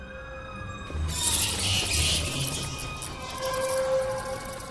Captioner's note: eerie music; bats screech